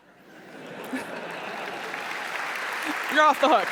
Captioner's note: applause